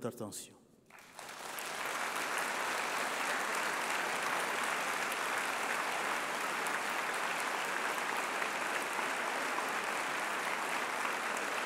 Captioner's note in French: Applaudissements